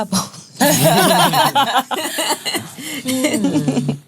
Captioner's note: laughs